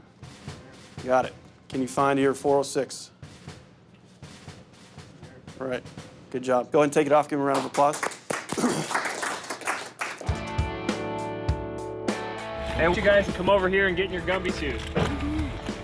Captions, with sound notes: You got it. Can you find your 406? Right, good job. Go ahead and take it off, give him a round of applause. (applause) (laid back rock music) - I want you guys to come over here and get in your Gumby suit.